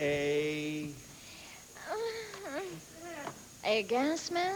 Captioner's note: groans